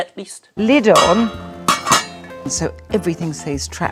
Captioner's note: metal clanking